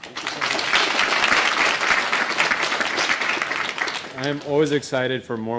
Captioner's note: applause